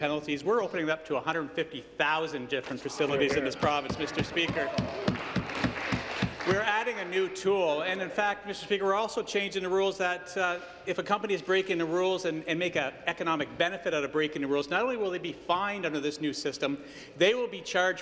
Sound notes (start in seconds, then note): 9.2 applause